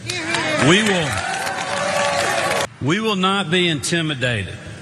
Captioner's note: applause